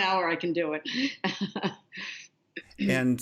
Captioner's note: laughter